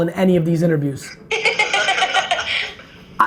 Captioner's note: group laughs